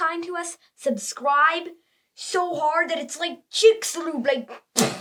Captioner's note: smash